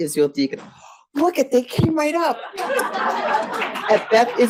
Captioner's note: audience laughs